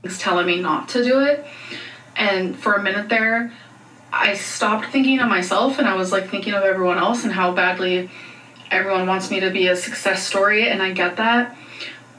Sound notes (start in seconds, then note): none